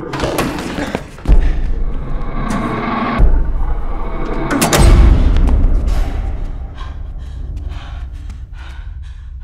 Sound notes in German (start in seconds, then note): 6.1 felsiges hecheln